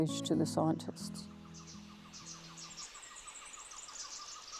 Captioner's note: birds chirping